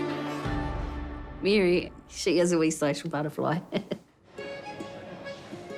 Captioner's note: laughs; elegant music